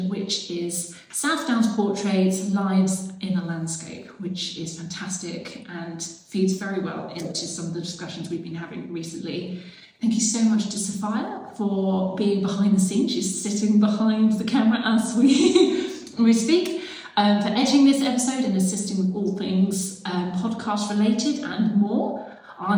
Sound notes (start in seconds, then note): 15.2 chuckles